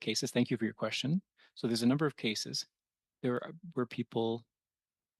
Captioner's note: speaking French